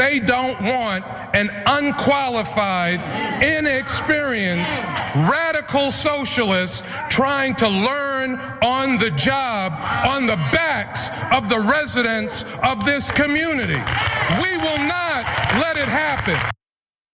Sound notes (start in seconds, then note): 12.7 applause